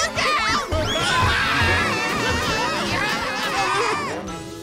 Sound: screaming

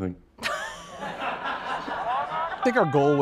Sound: everyone laughing

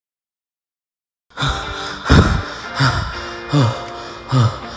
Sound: breathing heavily

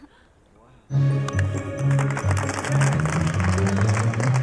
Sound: crowd applauding

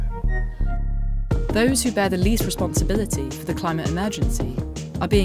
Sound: voiceover

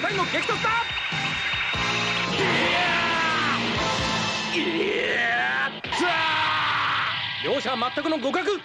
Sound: applause

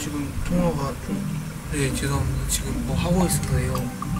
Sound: then the phone rings; knock-knock

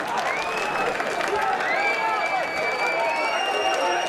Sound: whistling

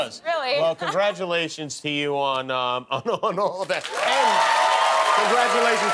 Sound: cheers and applause

